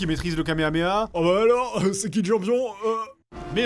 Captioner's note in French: voix stupide